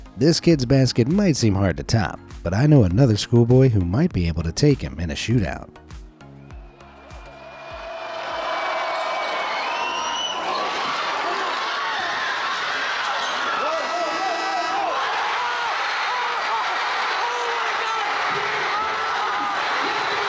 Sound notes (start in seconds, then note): 6.8 crowd cheering; 15.2 crowd applauding; 15.2 crowd cheering